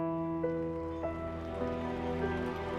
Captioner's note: cheering and applauding